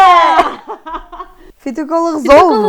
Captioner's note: laughs